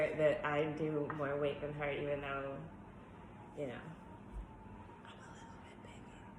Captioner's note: whispers